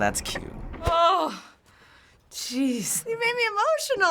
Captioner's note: moaning